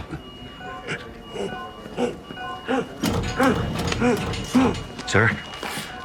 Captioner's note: patient grunting